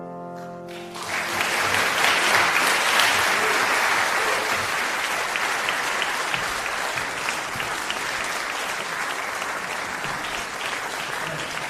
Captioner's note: applause